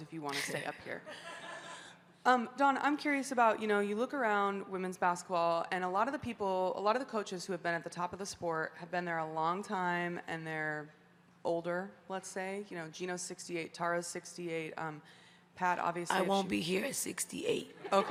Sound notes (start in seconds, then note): 0.3 Dawn chuckles; 1.1 journalist laughing; 17.8 crowd laughing